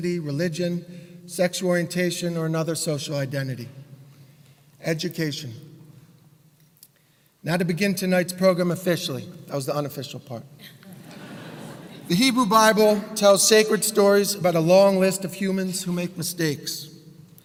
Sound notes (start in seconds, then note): 10.7 laugh